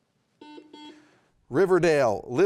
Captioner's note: buzzer beeping